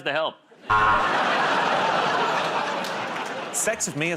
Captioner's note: buzzer